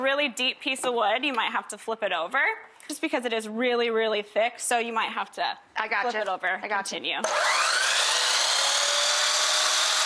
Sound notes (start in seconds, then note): 7.3 metal grinding